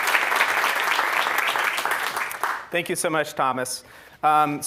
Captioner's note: applause